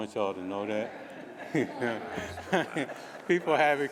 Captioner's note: laughter